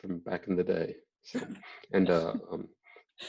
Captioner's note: laughs